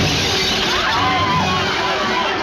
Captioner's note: crowd yelling